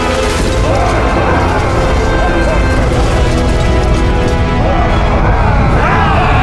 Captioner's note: dramatic orchestral music; soldiers grunt